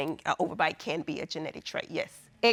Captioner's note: none